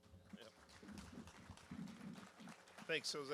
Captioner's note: applause